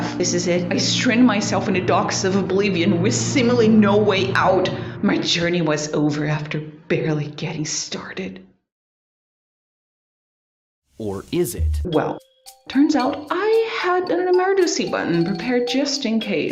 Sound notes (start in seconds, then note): 9.2 dramatical silence; 11.0 VSauce voice